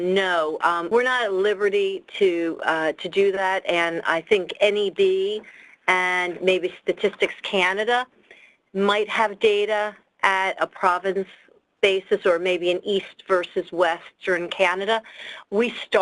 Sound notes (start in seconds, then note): none